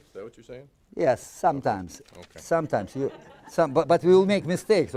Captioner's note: audience laughing